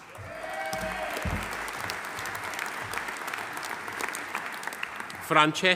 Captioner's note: audience cheering; audience applauding